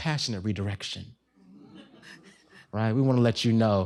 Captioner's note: laughter